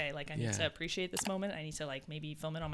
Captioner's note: computer mouse clicking